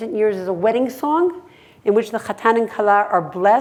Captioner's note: hebrew